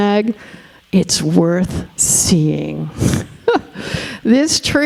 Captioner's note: chuckling